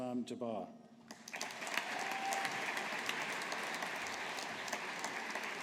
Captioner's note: audience applauding